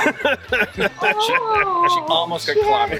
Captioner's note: laughs